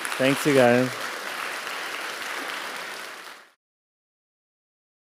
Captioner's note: applause